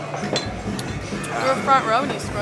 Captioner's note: glasses clanking over rhythmic hard rock music